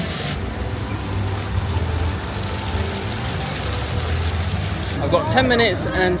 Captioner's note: fountain splashes